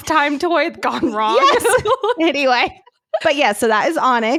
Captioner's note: giggle